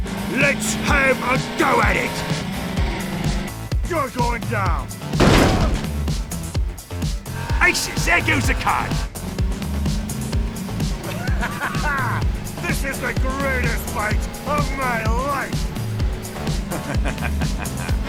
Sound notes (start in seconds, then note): 5.2 blamm!